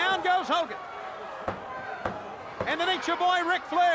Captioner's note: referee pounding